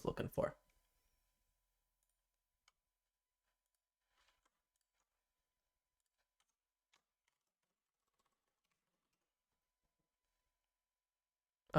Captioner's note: silence